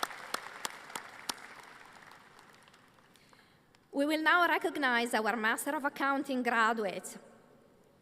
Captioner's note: applause